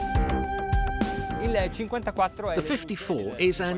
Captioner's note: speaks in foreign language